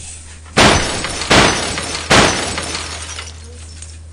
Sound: crashing noise

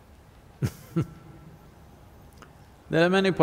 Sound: laughs

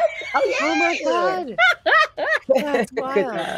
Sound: player laughs

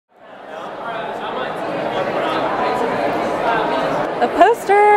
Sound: background Conversation

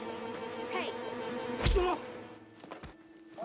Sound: boy groans; boy moans

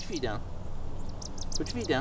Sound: bird chirps

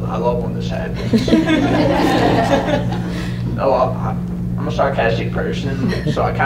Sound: laughter

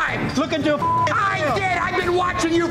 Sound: beeping

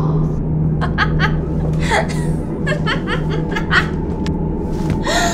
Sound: Bellatrix laughing

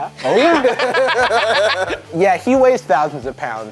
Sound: Ryan and Jarvis laughing

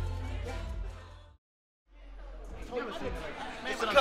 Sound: speaking away from mic

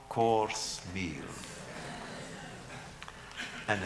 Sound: laughter

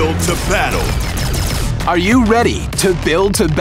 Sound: jets shooting

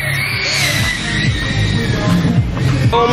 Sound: drone squealing

